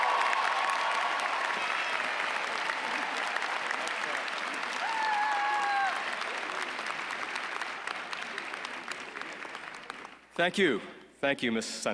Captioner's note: applause